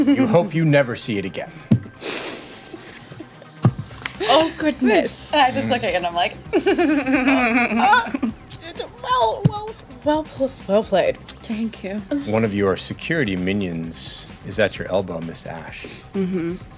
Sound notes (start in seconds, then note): 6.4 laughing